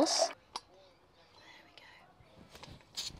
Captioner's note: whispers